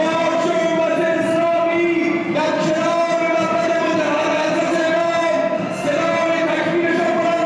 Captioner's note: Arabic spoken language